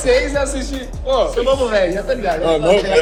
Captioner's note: laughter